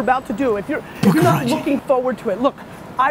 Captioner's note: whispering